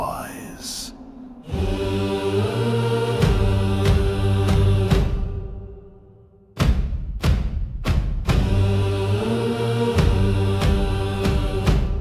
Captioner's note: chanting